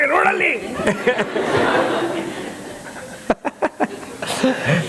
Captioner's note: laughter